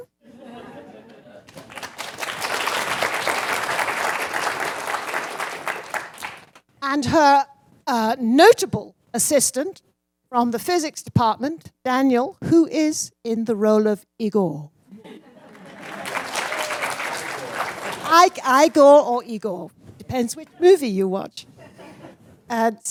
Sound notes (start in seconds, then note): 1.4 applause; 15.5 applause